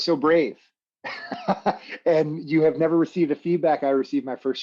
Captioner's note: laughs